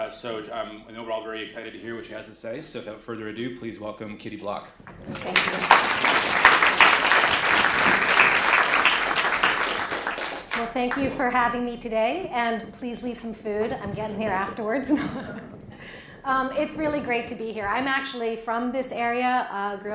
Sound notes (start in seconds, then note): 4.9 applause